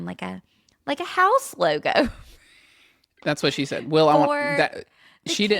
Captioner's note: laughs